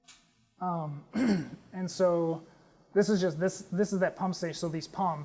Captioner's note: cough